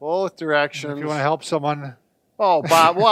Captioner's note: laughs